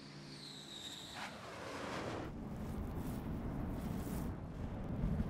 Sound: jet engine whirring

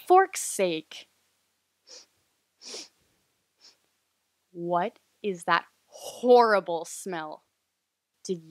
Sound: sniffing

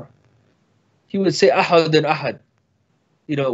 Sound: speaks in foreign language

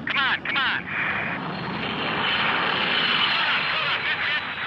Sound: whooshing

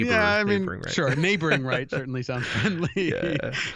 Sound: chuckle

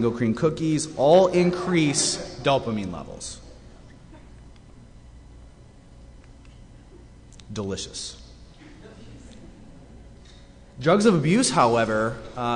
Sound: laughter

